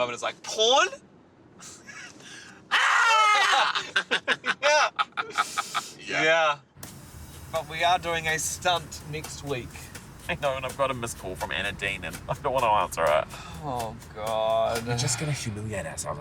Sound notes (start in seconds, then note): 2.6 screaming; 2.7 laughing